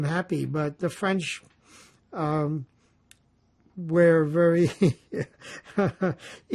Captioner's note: laughing